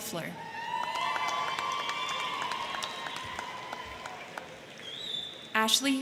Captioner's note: crowd cheering; crowd clapping